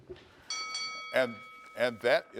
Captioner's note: bell dings